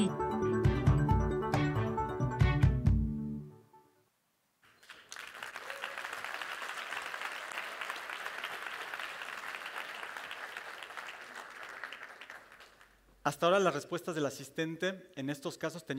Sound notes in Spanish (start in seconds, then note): 4.7 aplausos